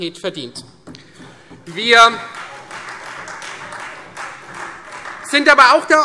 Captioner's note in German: Beifall Freie Demokraten